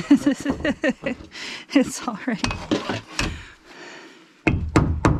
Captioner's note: laughing